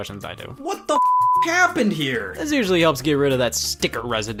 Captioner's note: beep